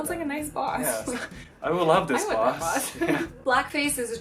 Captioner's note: laughing